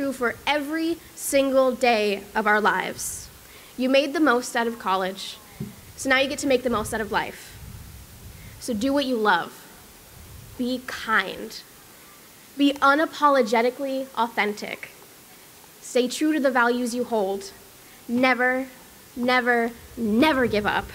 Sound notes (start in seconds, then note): none